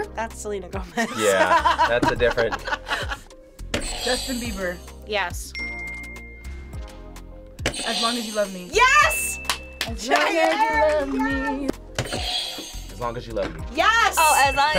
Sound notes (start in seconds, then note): 0.9 laughing; 5.5 audio dings; 9.0 audio dings; 14.2 audio dings